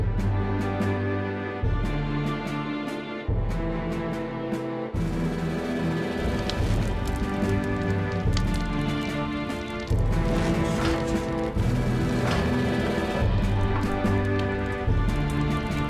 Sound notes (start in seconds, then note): 6.8 fire crackling; 10.6 flames whooshing